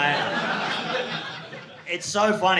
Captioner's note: audience laughing